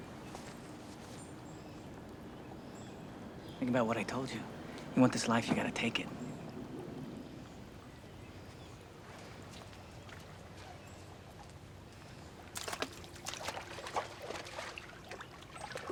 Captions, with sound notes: - Think about what I told you. You want this life, you gotta take it. (water splashing)